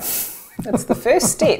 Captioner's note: chuckles